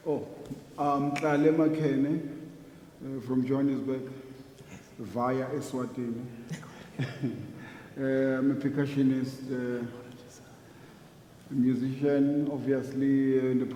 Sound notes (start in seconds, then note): 5.1 speaking foreign language